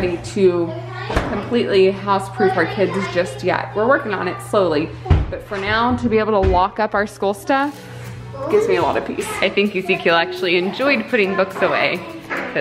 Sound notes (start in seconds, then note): 5.0 banging